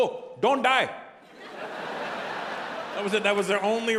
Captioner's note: audience laughing